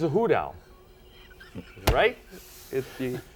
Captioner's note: laughing